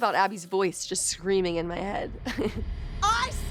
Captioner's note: chuckles